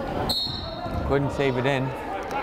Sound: whistle blows

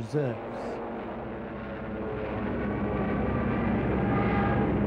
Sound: planes zooming

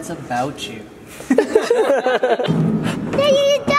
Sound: laughter

